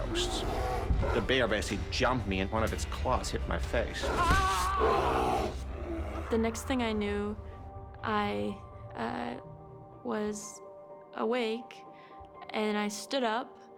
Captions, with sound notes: THE BEAR BASICALLY JUMPED ME, AND ONE OF ITS CLAWS HIT MY FACE. [ SCREAMING ] THE NEXT THING I KNEW, I WAS AWAKE. AND I STOOD UP.